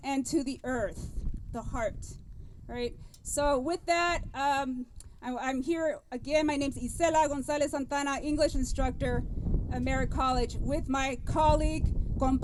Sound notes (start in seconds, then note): none